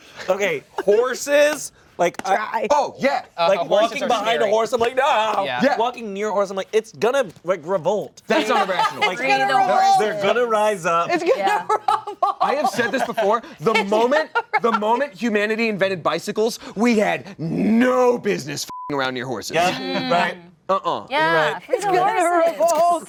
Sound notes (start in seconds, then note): 18.6 beep